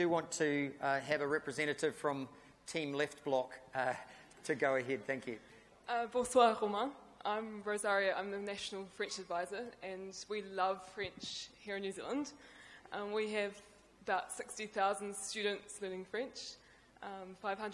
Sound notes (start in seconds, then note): 6.3 speaks in foreign language